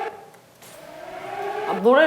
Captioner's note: waaaahhhh